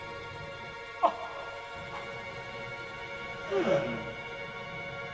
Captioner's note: man groaning